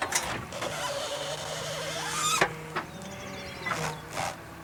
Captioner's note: tire squeaking